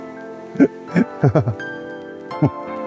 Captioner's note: laughs